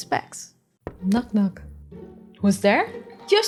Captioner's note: knock knock